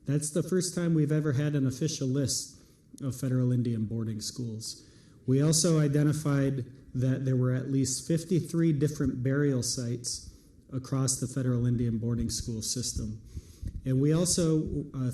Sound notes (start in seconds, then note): none